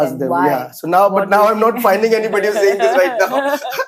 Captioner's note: laughs